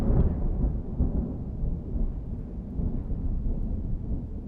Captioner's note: thunder rumbling